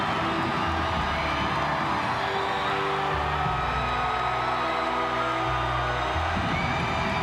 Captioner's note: crowd cheering; dramatic music